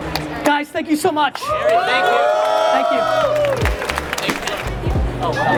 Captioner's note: crowd cheers